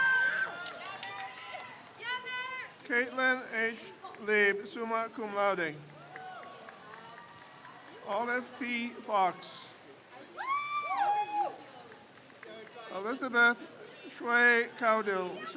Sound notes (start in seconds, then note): 0.0 crowd cheers; 6.1 crowd cheers; 10.7 crowd cheers